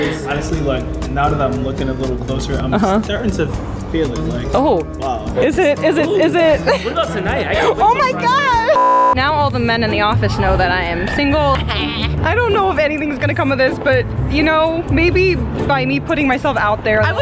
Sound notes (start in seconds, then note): 8.7 beep